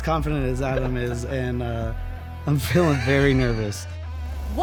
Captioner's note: laughs